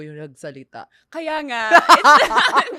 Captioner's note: laughs